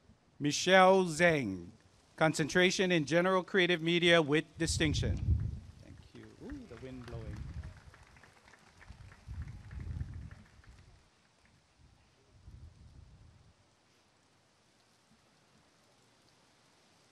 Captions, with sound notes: Michelle Zheng Concentration in General Creative Media with Distinction [applause and cheering]